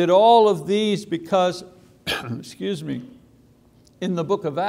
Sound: coughs

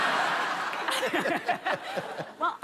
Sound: laughter

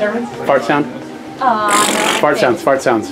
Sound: blows raspberries

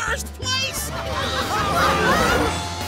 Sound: laughing

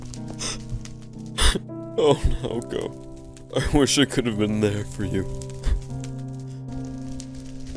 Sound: sobbing

